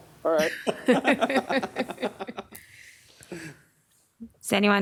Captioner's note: laughing